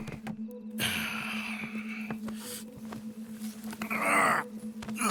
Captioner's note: Arthur sighs and carries the knocked out Jean-Marc